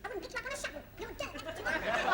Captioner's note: continues nagging; laughter